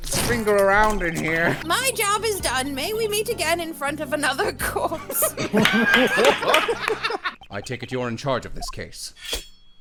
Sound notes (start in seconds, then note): 4.7 laughter